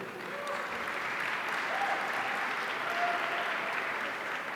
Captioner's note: audience applauding